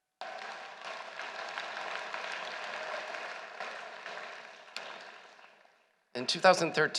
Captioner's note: applause